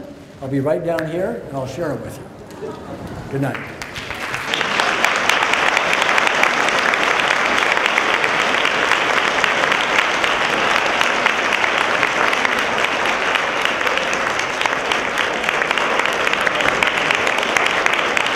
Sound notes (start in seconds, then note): 3.7 applause